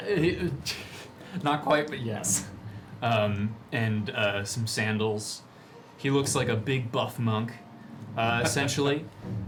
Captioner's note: laughing